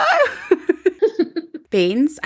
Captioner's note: laughing